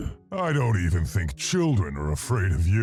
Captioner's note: voiceover